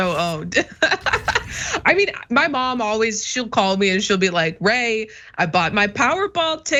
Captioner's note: laugh